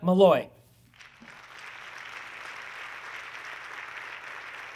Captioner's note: audience clapping